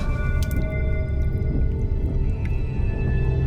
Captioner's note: glass clicks